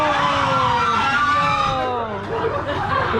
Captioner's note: everybody screams